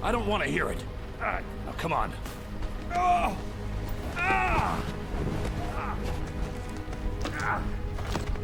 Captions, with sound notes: I don't wanna hear it. Now come on. (man groaning)